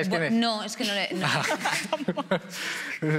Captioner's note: laughs